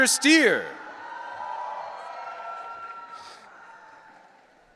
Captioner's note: audience cheering